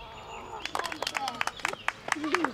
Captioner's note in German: Applaus